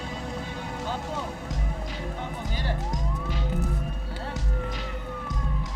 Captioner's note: speaking in foreign language